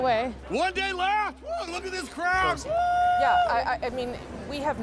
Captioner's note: cheering